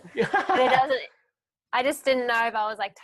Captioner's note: laughing